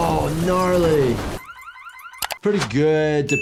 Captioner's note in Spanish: Alarma del coche a todo volumen